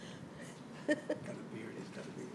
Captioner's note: laughing